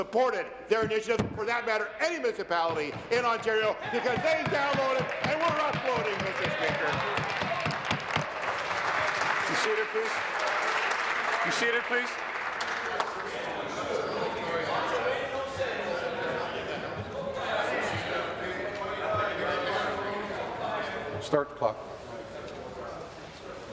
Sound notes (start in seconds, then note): 8.9 applause